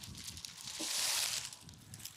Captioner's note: rustling